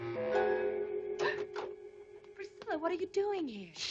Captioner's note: Priscilla gasps